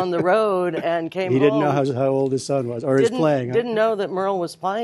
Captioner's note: laughter